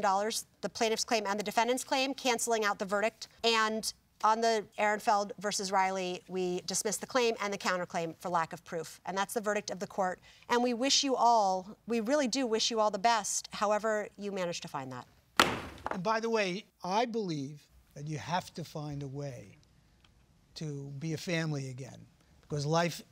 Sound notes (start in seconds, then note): 15.4 bangs gavel